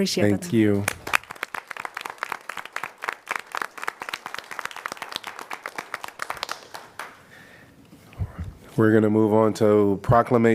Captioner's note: applause